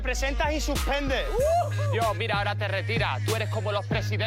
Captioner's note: shouts